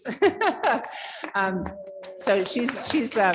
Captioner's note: applause